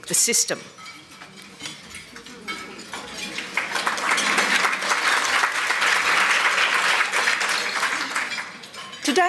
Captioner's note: applause